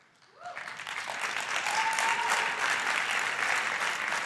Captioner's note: crowd applauding